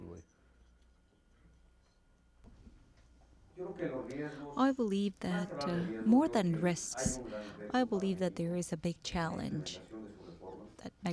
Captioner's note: through translator